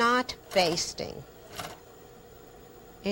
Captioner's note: sewing machine